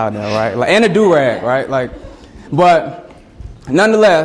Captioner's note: students laugh